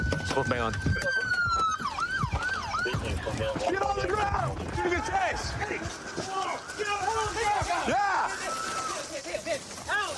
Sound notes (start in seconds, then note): 0.0 sirens wailing; 6.5 officers yelling